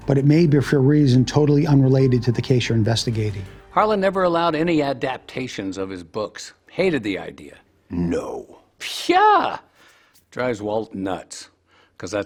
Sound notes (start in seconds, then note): 7.9 sarcastically